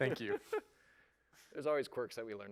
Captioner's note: laughter